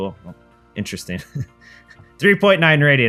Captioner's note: laughs